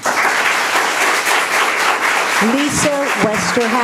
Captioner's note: applauding